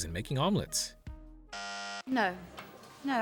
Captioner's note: bzzzt